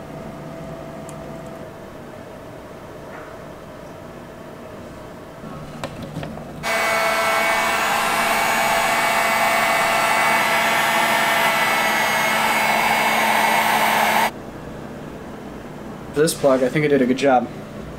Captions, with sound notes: (vroom) This plug, I think I did a good job